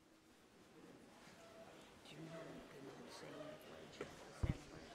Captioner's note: crowd chatter